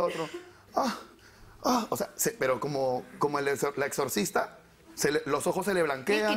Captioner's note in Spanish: Imita gemidos